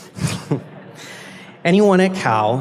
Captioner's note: chuckles